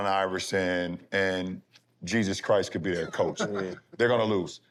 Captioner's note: laughter